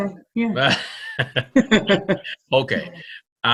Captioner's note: both Laughing; laughing